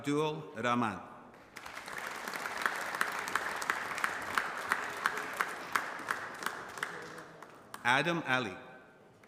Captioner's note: applause